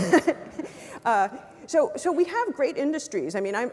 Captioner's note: laugh